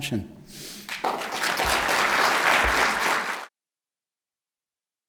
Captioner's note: applause